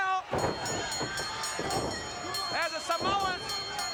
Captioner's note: bell rings